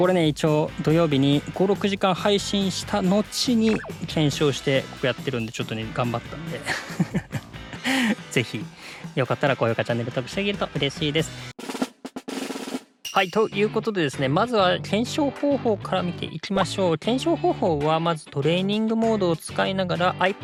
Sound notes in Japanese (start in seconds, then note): 7.0 笑い